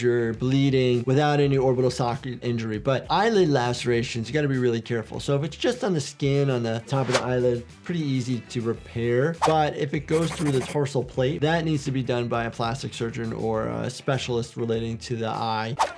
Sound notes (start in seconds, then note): 7.5 audio whooshes; 8.7 soft upbeat music plays; 10.2 audio whooshes